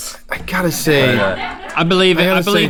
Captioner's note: laughing